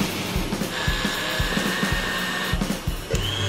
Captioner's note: whirring